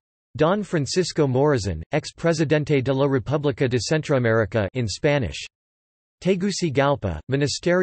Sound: in Spanish

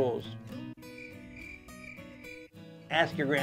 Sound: crickets

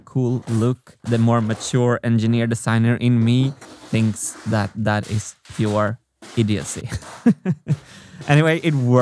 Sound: chuckles

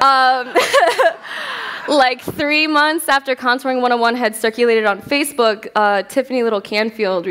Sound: laughter

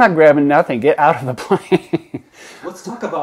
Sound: laughs

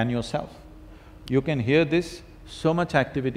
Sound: snaps his fingers

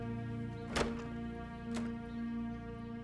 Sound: sound of door opening

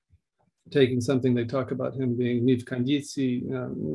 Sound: speaking in Russian

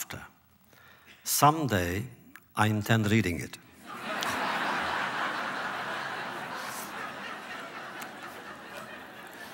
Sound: laughter

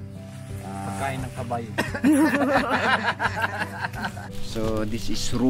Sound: laughter

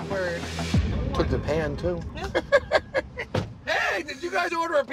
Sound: laughing

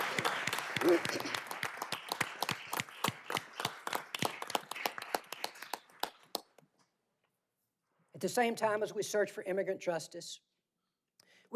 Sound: applause

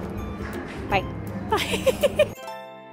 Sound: giggleing

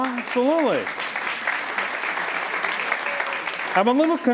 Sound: applause

